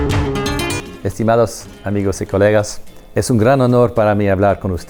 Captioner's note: speaking in Spanish